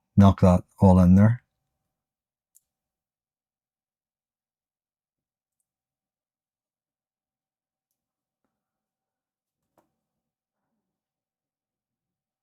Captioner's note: silence